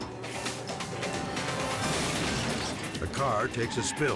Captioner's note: metal crunches; dramatic music